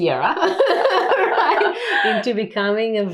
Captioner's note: laughing